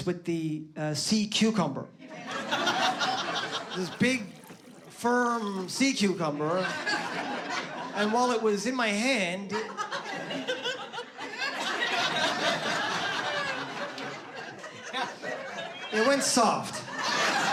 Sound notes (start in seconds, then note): 9.4 laughter